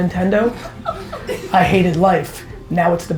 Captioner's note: laughs